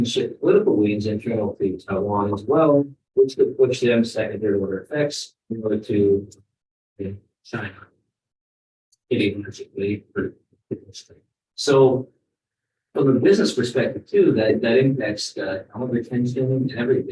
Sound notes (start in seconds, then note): 6.1 speaks faintly